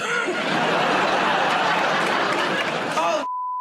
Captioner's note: laughter and applause